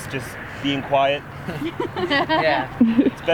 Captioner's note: all laughing